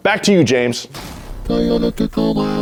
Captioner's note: crashing sound